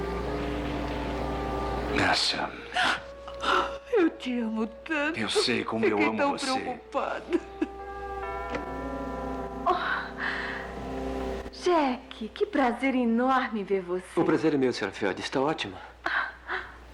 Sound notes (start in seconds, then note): 8.1 doorbell Rings